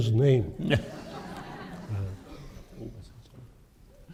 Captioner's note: laughter